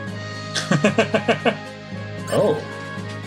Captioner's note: laughs